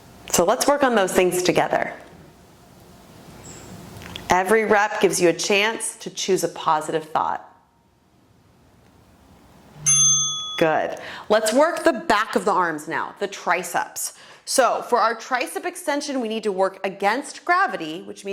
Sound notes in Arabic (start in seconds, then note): 9.8 قرعات الجرس